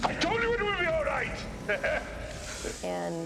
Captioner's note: laughs